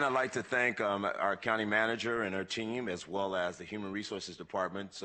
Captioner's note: applause